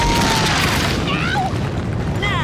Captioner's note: screams